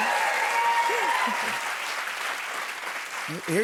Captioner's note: cheers and applause